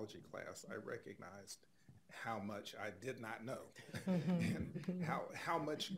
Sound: chuckles

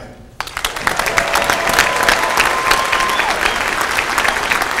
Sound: applause

